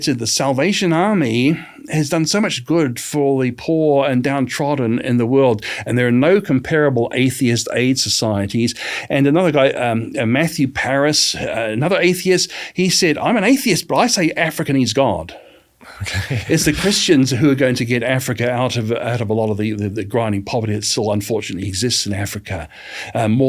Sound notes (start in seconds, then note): 15.8 laughs